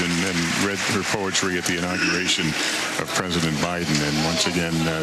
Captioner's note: cheers and applause